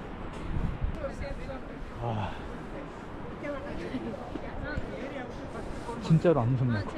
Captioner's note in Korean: 계속 한숨